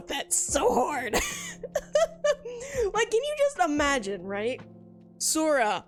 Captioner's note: laughs